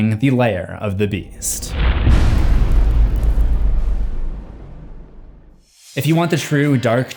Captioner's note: impact